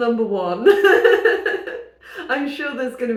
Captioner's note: laughing